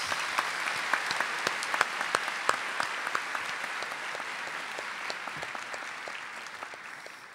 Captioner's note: applause